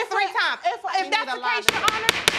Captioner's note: gavel banging